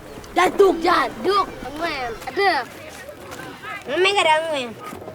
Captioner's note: children playing